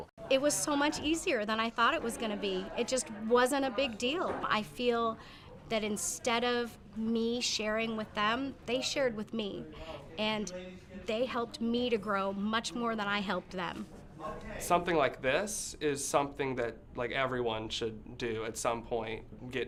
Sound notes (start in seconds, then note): none